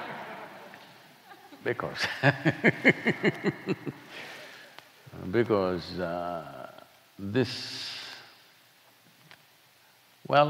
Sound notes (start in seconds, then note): 0.0 laughter; 2.0 laughs